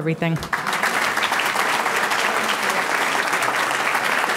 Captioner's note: audience clapping